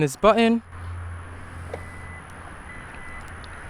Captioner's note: trunk chime